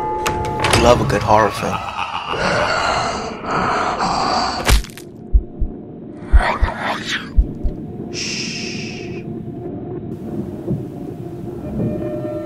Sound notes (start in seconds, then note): 2.5 spooky Sounds; 5.2 heart Beating